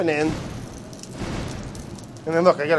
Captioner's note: explosions booming